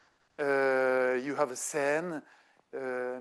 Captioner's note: speaking French